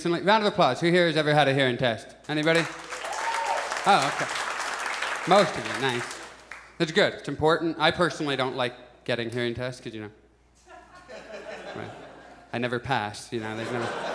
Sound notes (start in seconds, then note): 2.4 audience applauds; 10.6 audience chuckles